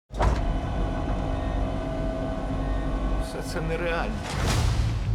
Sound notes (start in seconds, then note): 0.2 whirring